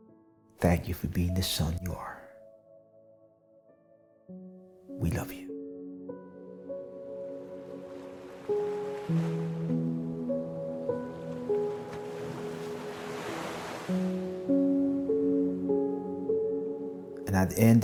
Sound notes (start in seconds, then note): 7.6 waves crashing; 8.6 gentle music continues